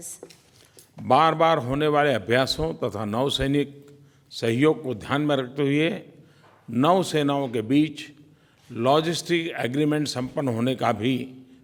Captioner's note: PM Modi speaks in Hindi